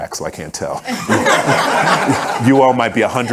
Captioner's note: audience laughing